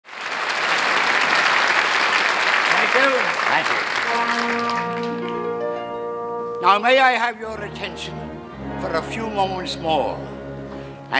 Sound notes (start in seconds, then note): 0.0 audience applauding